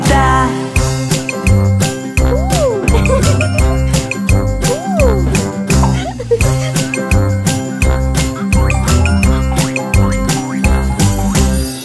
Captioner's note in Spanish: Música Alegre; Risas